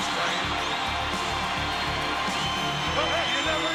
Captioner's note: crowd cheering